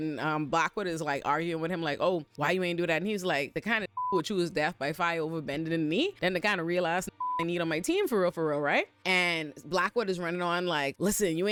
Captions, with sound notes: And Blackwood is like arguing with him like, oh, why you ain't do that? And he's like the kind of (beep) who choose death by fire over bending the knee. And the kind of real ass (beep) I need on my team for real, for real, right? And Blackwood is running on like, listen,